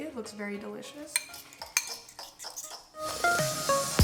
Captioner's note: bowl scraping; upbeat music